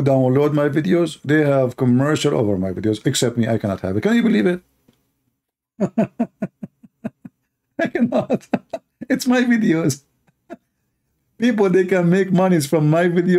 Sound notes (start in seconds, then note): 5.8 Ketawa